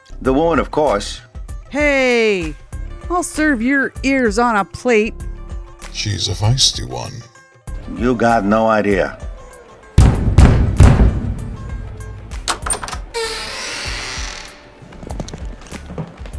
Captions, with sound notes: The woman, of course! Hey.. I'll serve your ears on our plate! She's a fiesty one. You got no idea. (Banging on metal door) (The door opens)